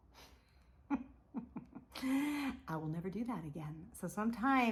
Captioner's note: laughs